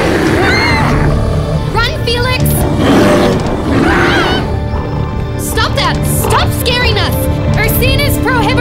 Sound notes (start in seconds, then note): 0.0 screaming; 2.6 growling continues